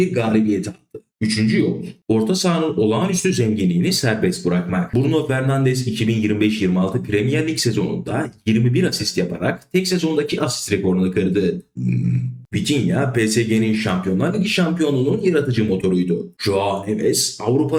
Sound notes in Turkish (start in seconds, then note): 11.8 boğazını temizler